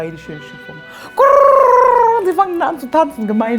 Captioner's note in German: Imitiert Taubengurren